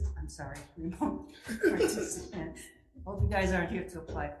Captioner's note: senator laughs